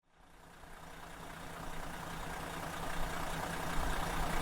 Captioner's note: engine roaring